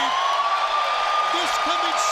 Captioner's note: siren wails